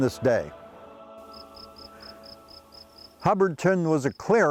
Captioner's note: birds singing